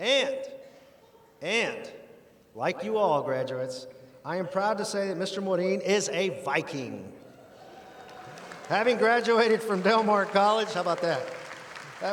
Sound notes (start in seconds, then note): 7.5 audience applauding